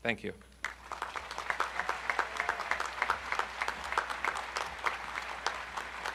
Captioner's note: audience cheering and applauding